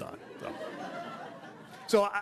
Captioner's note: audience laughing